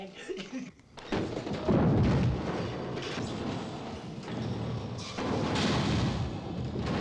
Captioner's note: furniture bangs; house rumbling